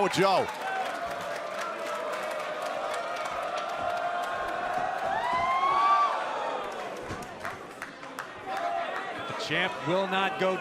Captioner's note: crowd cheering